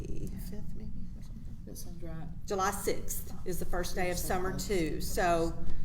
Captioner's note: murmurs